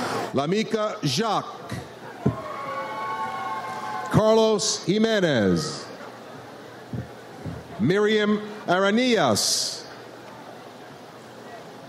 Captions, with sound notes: Lamica Jacques. (audience cheers) Carlos Jimenez. Miriam Arrhenius.